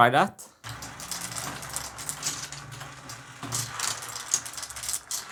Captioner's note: marbles rolling